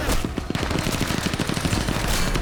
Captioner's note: gunfire